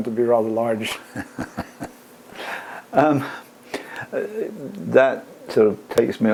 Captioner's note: laugh